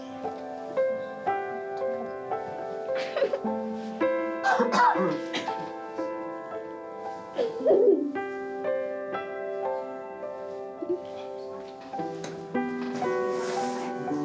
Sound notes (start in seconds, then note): 3.0 giggles; 12.2 sombre music